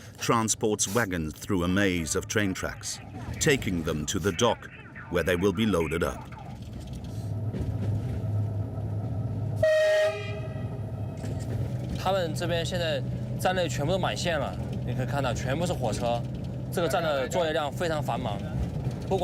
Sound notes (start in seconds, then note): 9.5 train horn blaring; 11.6 speaking foreign language